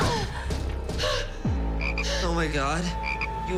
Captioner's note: frogs croaking